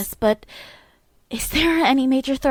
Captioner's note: breath